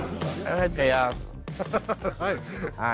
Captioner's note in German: lacht